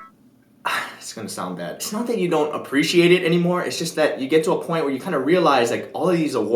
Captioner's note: sigh